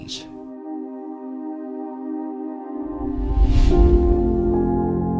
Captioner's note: gentle music continues; air whooshing; mysterious music